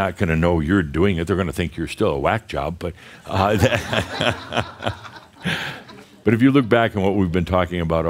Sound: laughter

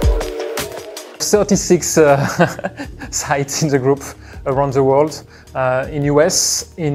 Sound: laughs

